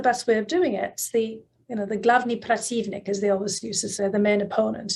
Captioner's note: russian